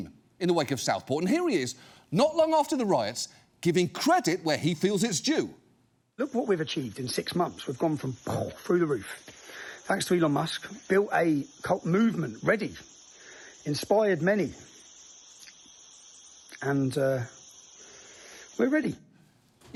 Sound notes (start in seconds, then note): 8.1 mimics explosion